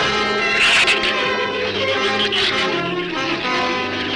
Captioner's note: gun fires; shrew chatter